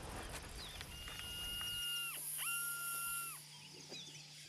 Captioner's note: detector sounding